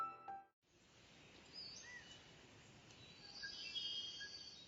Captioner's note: bird song